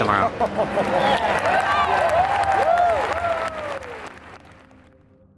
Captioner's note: crowd clapping, cheering, and laughing